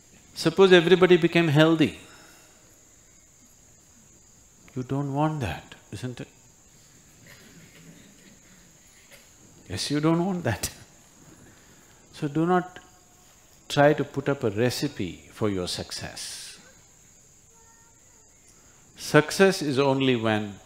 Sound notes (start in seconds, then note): 11.0 laughs